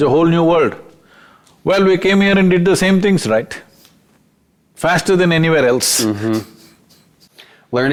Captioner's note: laughs